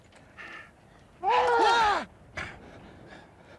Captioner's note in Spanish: ambos gritan